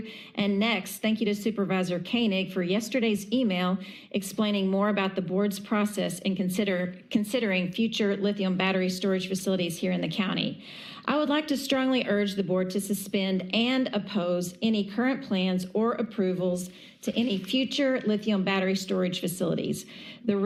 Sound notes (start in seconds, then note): none